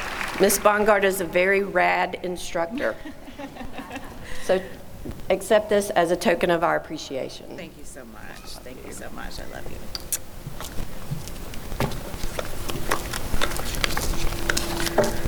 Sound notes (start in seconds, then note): 0.0 applause; 2.7 laughter